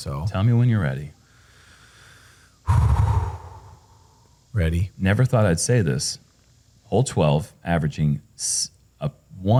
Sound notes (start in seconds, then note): 1.6 exhales